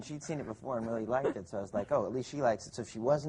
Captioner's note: laughing